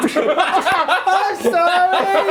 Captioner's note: laughing